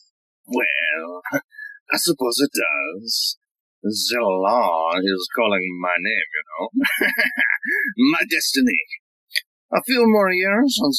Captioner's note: he laughs